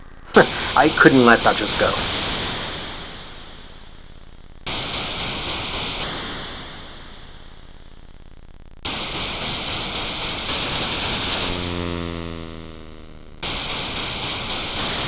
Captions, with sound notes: [chuckles] I couldn’t let that just go… [gunfire and explosions]